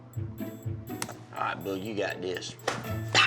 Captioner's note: slaps face